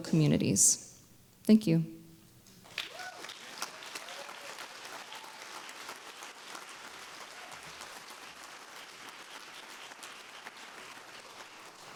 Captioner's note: applause